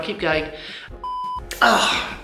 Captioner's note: beep